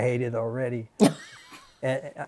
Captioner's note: laughter